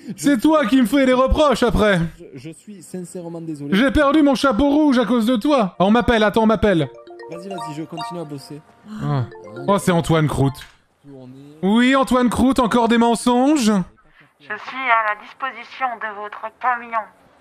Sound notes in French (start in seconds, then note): 8.8 Dona soupire; 9.2 sonnerie de téléphone